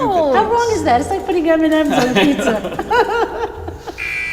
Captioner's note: laughter